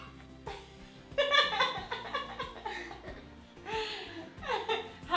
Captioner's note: laughs